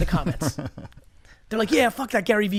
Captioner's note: laughs